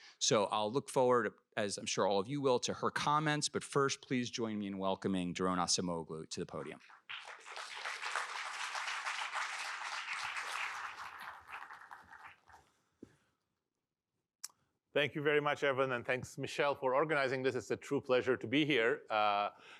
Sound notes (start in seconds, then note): 6.9 applause